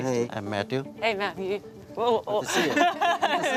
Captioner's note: laughs